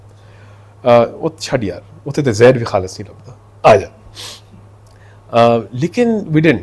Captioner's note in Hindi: नाक से की जाने वाली आवाज़